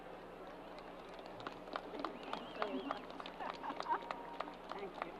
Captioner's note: crowd applause